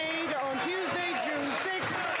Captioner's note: applause